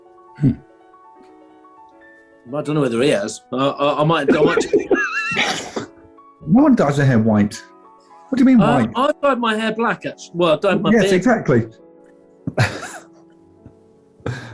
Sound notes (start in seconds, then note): 4.2 giggling and sniggering; 12.4 sniggering